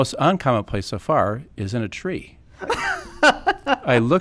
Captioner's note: laughing